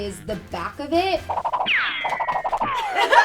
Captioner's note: peaches ricocheting; laughing